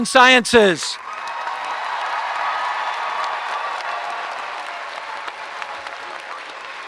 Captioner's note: audience applauding and cheering